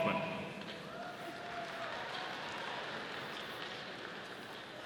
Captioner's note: audience applauding